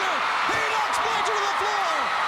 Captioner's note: crowd cheering